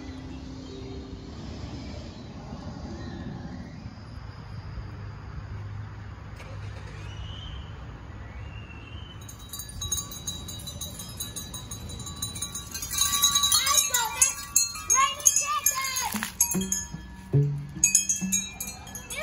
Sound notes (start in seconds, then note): 9.1 chimes; 12.7 kids splashing with water; 14.8 chimes